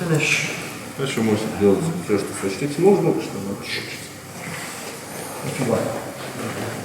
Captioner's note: speaking in a foreign language